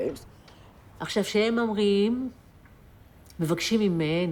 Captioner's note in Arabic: الصوت المنطوق باللغة العبرية